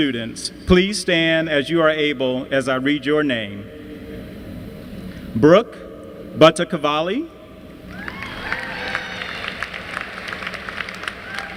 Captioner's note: applause